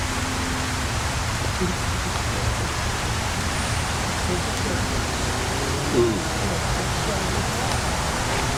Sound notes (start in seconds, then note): 5.8 people Talking